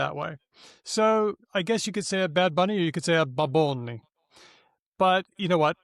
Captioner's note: in a puerto rican accent